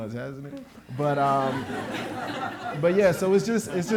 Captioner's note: audience laughing